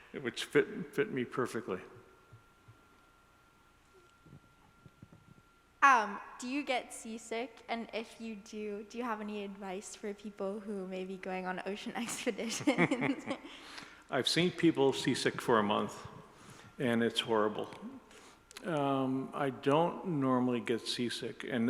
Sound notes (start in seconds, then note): 12.4 laughs